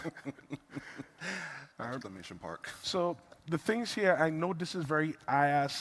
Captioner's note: laughter